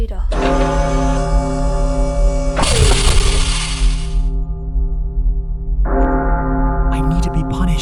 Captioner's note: machinery whirrs, bell rings